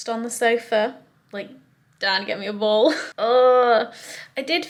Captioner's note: groans